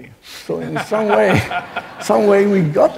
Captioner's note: laughing